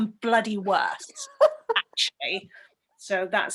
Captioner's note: laughter